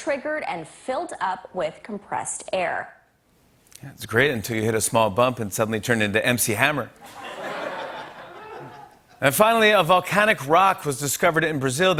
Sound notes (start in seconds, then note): 7.0 laughter